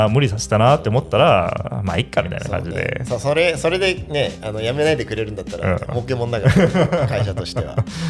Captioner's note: laughs